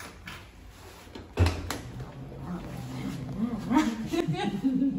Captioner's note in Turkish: Grunt homurtu